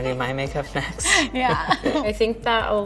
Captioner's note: laughs